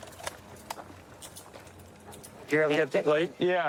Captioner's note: handcuffs clicking